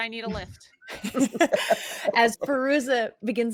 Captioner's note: all laughing